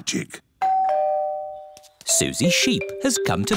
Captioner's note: doorbell